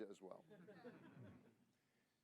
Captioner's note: laughter